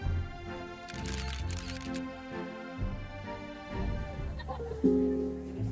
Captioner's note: graceful music; cameras clicking